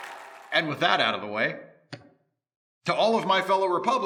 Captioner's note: cheers and applause